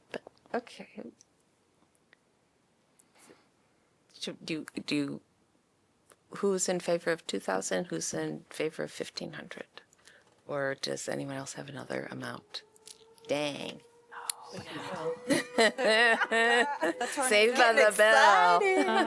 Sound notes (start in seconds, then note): 13.7 siren